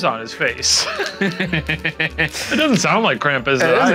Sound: laughing

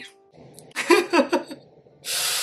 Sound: guilty laugh

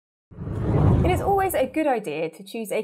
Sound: scene whooshes

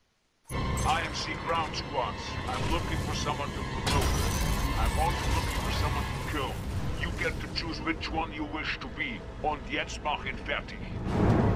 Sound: radio

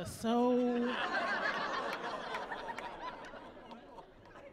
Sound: laughing

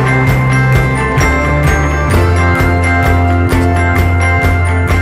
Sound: applause

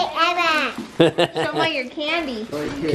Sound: laughs

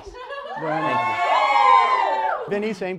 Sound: audience cheers

